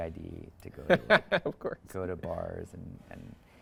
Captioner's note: laughs